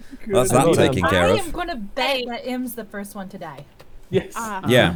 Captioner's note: laughing